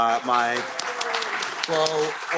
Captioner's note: applause